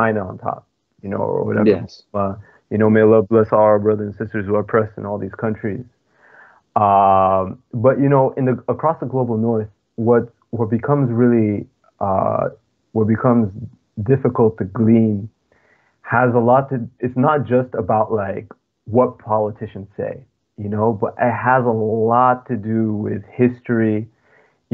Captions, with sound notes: which is funny because I think we're all trying to gleam, (laughing) that's hard because if the apocalypse is going down, just tell me where to move, right? - I wouldn't say apocalypse but I would say if someone, if a community is doing something right, we can learn from them and if a community is struggling, we can also learn from them. That's what I would see as what we could extract from that.